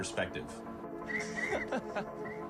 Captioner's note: man laughs